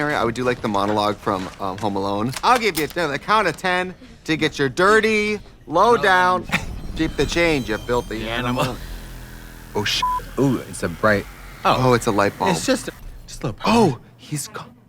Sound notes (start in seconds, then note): 10.1 beeping